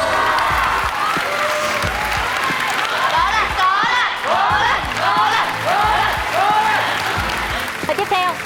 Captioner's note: clapping